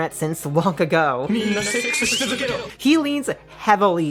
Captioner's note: a kamiggle of Kamille's shouting excitedly